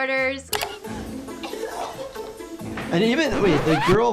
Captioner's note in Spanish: las concursantes tosen